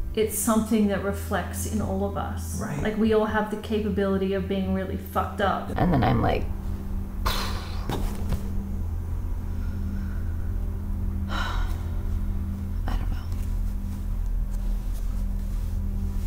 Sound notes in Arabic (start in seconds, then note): 7.2 ينفخ الهواء; 11.8 تنهد